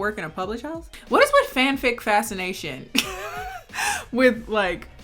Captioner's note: chuckling